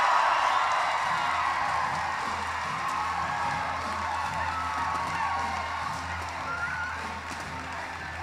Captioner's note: cheering